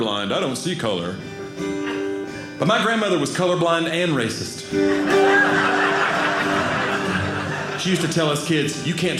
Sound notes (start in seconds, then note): 4.8 audience laughing